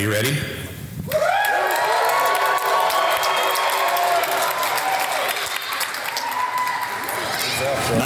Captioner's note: audience applause